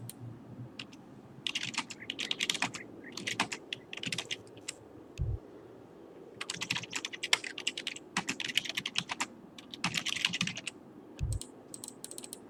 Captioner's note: typing sounds again